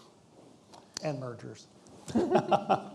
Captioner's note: laughing